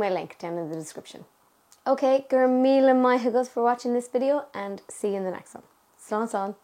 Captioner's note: in Irish